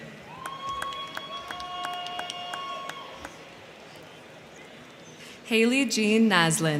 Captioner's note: crowd cheering; crowd clapping